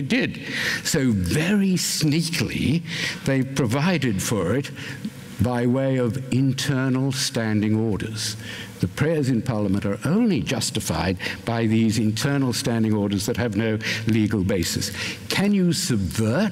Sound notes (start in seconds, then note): none